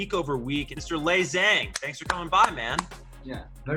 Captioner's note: claps